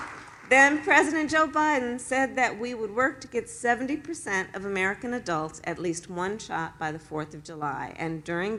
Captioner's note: applause